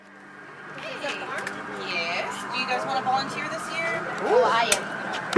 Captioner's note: voiceover